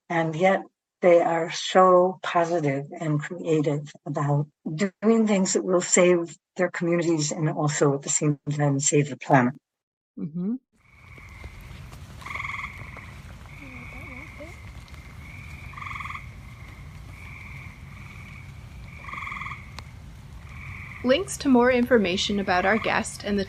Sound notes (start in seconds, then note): 12.7 sounds of frogs calling from a marsh on a rainy summer evening